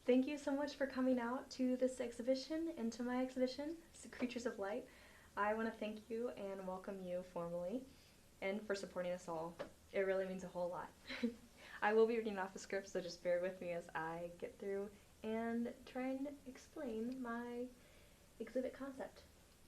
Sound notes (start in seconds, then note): 11.1 laughter